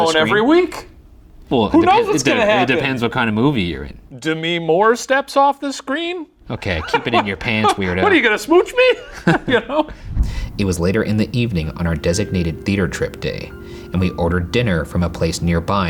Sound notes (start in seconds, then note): 6.4 laughing